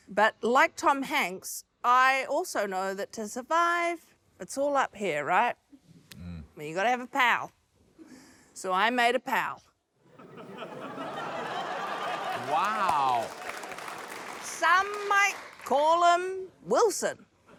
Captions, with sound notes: But like Tom Hanks, I also know that to survive, it's all up here, right. I mean, you've gotta have a pal, so I made a pal. (LAUGHTER) - Wow. - Some might call him 'Wilson'.